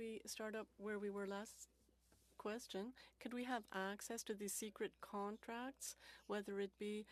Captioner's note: speaking French